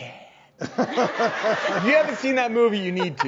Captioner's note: audience laughs